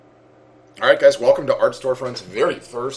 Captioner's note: voiceover